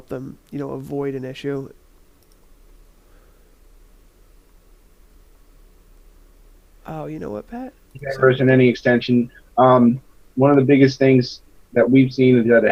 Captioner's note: audio goes silent